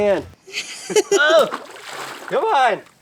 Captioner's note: water splashing